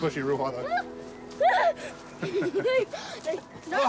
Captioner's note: chuckles